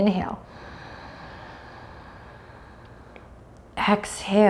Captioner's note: deeply inhales